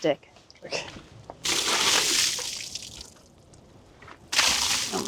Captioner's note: liquid splashing